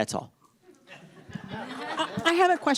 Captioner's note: audience laughs